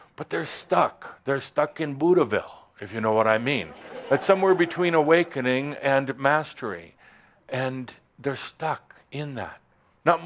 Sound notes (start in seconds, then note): 3.7 some chuckles